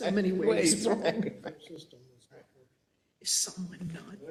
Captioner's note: laugh